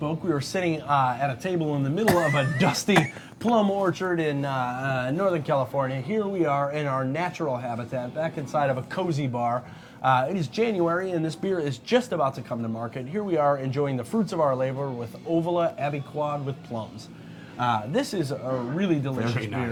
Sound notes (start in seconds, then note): 2.1 laughing